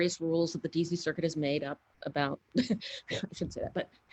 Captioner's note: laughs